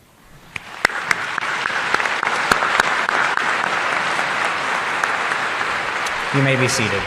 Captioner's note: applause